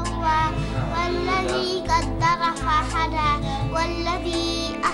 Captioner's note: non-english speech